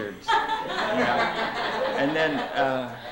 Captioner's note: laughter